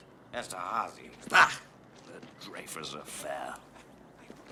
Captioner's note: scoffs